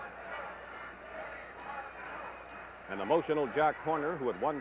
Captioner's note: crowd noise